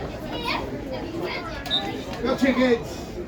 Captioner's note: whistle blows